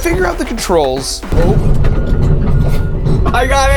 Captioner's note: excavator beeping